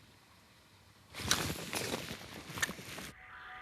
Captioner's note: splash